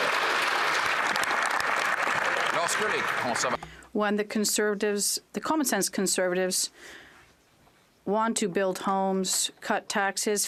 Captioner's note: speaking French; some Applause